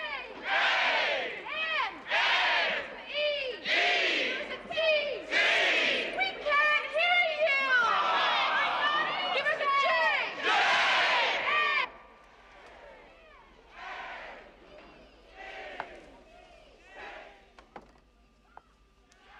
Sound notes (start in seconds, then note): 8.3 Стоны толпы; 12.1 Аплодисменты продолжаются, Неразборчиво